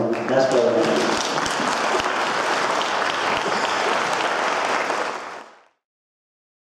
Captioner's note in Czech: potlesk